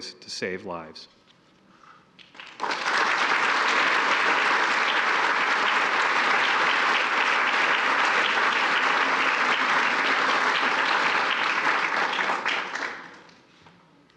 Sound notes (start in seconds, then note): 2.2 applause